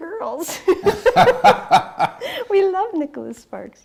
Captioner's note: laughing